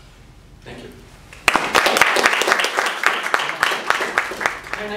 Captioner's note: applause